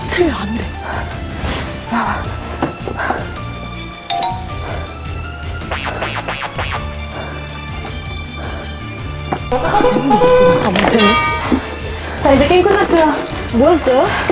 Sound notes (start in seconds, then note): 5.4 click, click, click, click